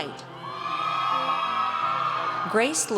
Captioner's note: audience cheers